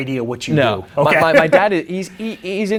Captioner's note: laughs